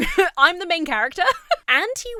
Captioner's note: giggles